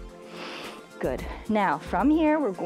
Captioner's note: inhales